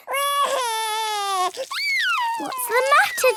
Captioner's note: crying